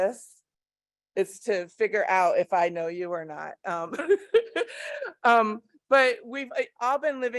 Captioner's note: laughs